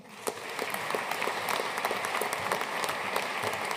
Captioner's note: audience applauding